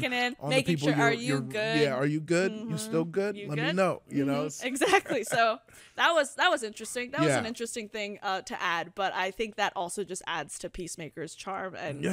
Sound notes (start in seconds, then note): 4.8 laughs